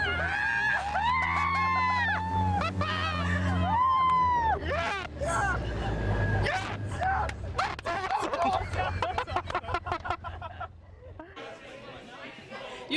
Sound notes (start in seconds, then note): 2.1 engine revs